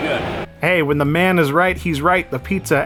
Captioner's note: narrating